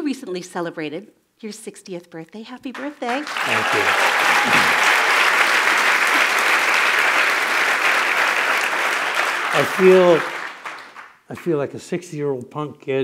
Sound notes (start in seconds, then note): 2.3 applause